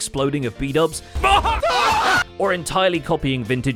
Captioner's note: explosion; shouting